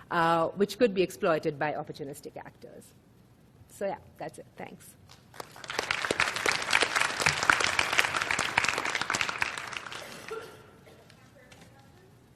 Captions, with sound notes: which could be exploited by opportunistic actors. So yeah, that's it. Thanks. (applause)